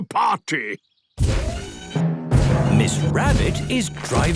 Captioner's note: thudding, mechanical whirring